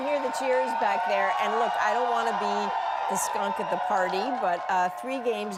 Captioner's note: cheers and Applause